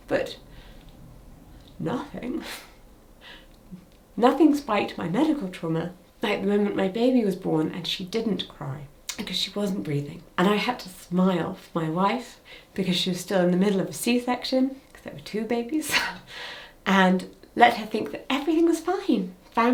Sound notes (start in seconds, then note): 16.4 chuckles